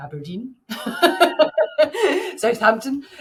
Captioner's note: laughing